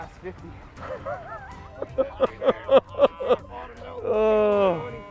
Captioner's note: laughter